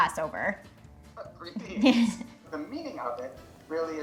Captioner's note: chuckles